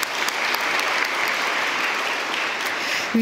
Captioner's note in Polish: oklaski